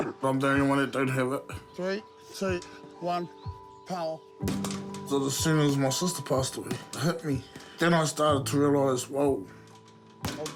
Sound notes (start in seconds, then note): 7.0 clears throat